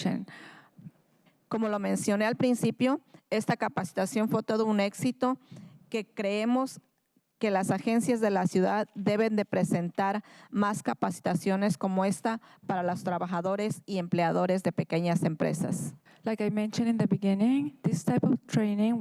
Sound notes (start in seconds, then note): 5.4 speaking in spanish